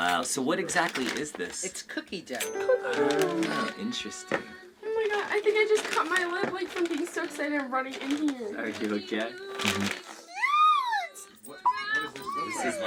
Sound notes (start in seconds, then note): 9.8 bag rustling